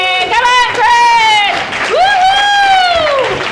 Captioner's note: audience applauding